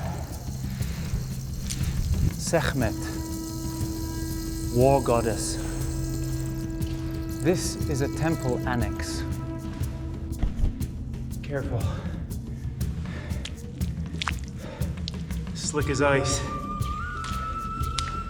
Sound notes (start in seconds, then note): 13.0 water dripping